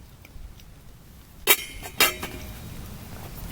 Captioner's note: clangy clang